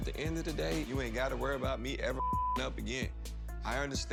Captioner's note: beep